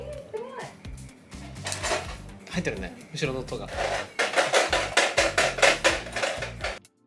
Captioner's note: clattering noise